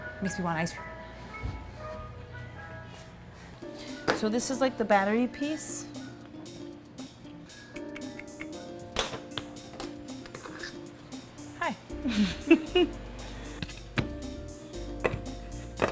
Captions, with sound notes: Makes me want ice cream. So this is like the battery piece. (clicks tongue) (decorating tools scraping on table) Hi. - (camera person laughs)